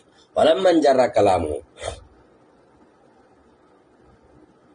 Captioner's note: snorts